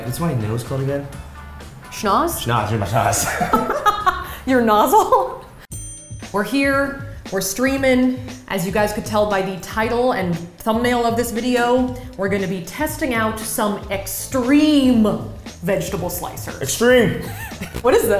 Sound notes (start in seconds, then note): 3.2 laughs; 5.7 ding